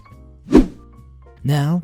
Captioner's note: whoosh